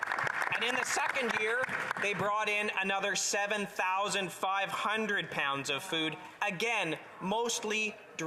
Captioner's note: applause